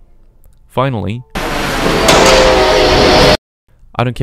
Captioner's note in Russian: Звук схода состава с пути